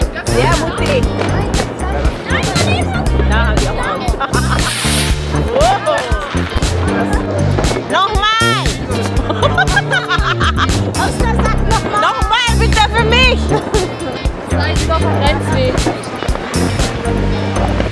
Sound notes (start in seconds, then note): 0.0 laugh; 3.3 laugh; 3.3 speaking German; 8.9 speaking German; 10.5 laugh; 13.9 laugh; 14.7 speaking German